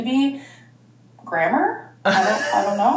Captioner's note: laughing